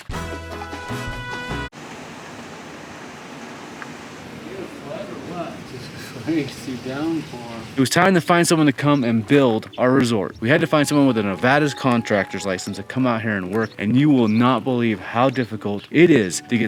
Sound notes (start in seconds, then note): 0.1 upbeat music; 1.7 rain pouring